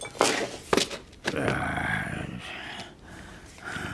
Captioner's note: groans